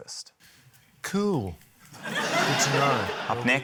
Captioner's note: laughter